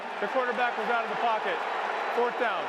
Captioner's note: crowd clamoring